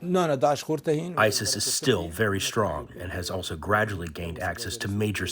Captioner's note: through translator